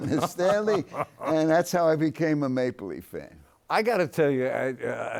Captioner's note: laughs